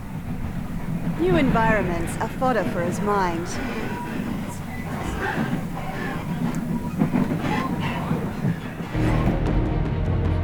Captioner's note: train noises; energetic music